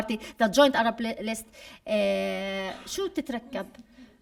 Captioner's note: speaking arabic